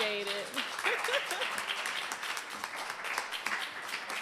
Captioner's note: applause